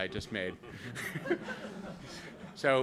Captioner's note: laughter